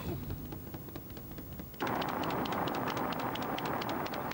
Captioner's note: flat tyre flaps on road surface